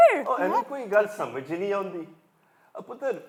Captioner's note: in Punjabi